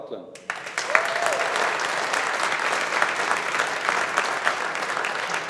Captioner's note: audience applauding